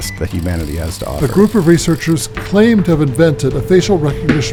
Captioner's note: podcast Voice